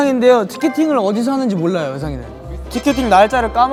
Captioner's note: confident